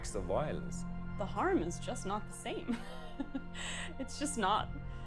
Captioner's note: chuckles